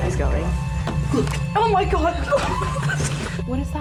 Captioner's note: laughs